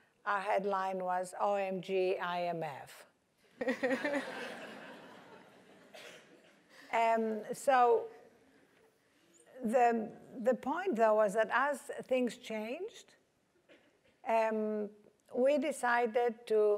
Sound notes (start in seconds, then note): 3.6 laugh